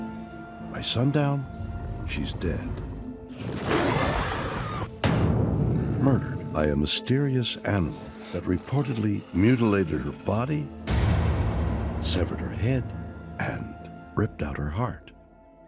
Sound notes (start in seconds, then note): 3.2 growling, screaming